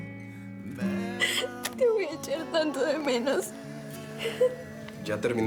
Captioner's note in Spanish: Sollozos